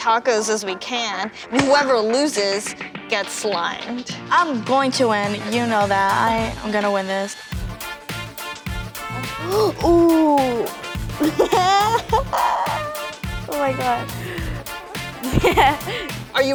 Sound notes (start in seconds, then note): 7.8 jazzy music; 11.0 laughs